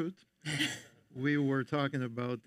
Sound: panelists chuckle

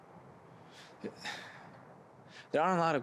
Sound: he sighs

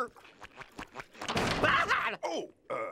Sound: screaming

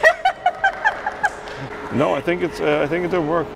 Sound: laughing; clapping

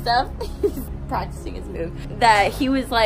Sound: laughs

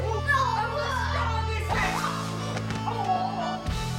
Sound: punch

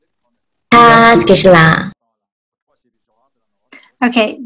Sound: speaks in foreign language

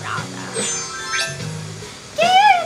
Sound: chimes as outfit changes

